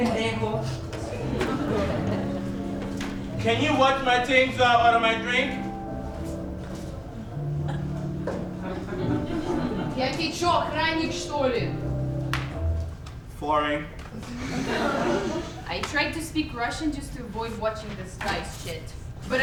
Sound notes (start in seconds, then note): 10.1 speaking in a foreign language; 12.3 snap